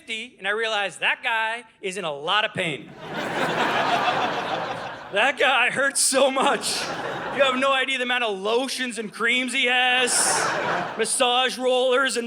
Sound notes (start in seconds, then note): 2.9 audience laughing; 10.0 audience laughing